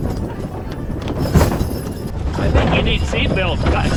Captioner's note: wagon jostling